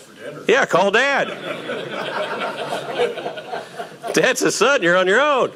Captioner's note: audience laughing